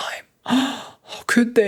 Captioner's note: gasping